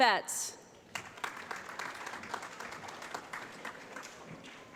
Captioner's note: applause